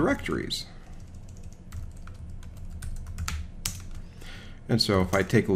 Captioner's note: keyboard clicking